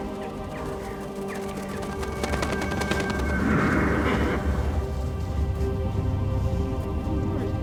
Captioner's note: wings flapping; mysterious music